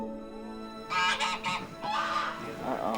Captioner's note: goose honking